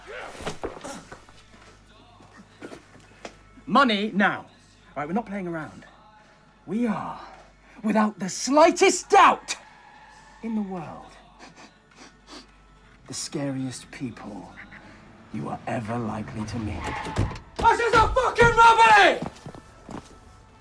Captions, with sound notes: (grunts) Money, now! All right, we're not playing around. We are without the slightest doubt (tires screech) in the world, (sniffs) (engine revving) the scariest people you are ever likely to meet. (tires screech) (car doors slam) - All right, this is a fuckin' robbery!